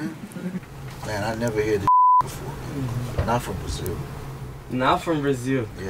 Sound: beep

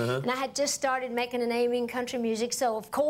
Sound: none

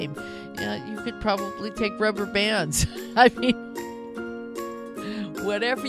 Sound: laughing

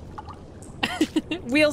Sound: laugh

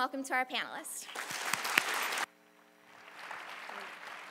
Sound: applause

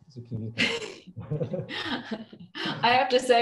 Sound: laughs

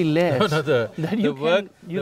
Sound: laughs

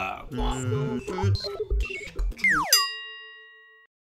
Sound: robotic beeping; dinging

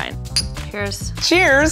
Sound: glasses clink

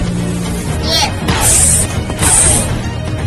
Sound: blaster shots

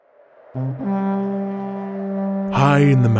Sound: battle horn

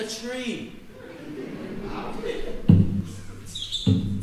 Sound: audience laughing; drum beating

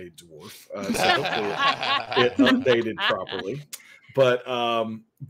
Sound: laughing

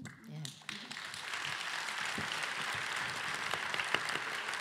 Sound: applause

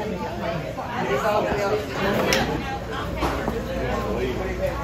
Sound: patrons chattering

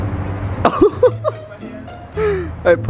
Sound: piano keys smash; laughs

